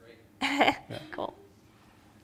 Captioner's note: laughs